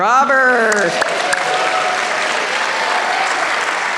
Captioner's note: applause